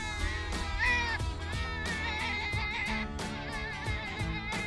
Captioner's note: high pitched squealing